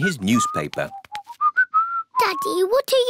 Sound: whistling

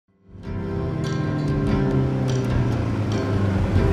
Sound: motorcycle approaching

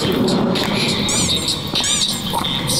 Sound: creak

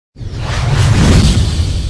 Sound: swoosh

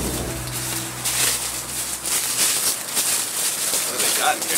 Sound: leaves rustling

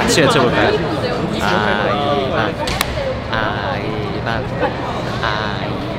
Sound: clap!

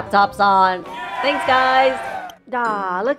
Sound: cheers

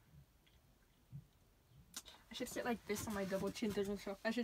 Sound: clicks tongue

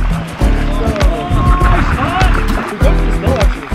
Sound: mellow music; yells

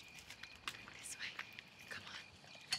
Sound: whispering

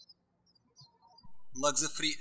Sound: birds chirping

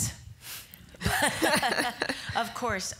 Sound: all laughing

